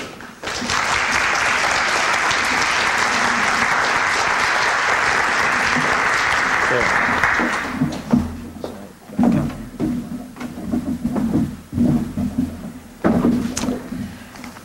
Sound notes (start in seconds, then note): 1.8 applause; 1.8 noise of moving chairs